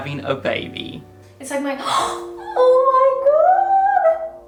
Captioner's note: gasping